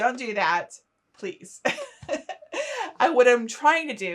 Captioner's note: laughing